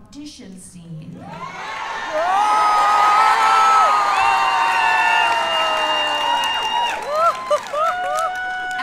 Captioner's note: cheers